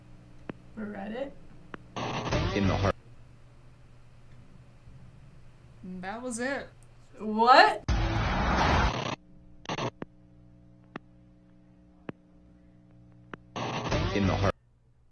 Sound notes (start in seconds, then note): 7.8 static noise; 7.9 thrilling music